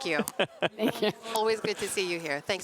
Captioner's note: laughter